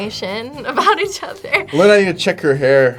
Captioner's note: laughs